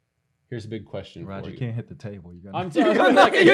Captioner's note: laughter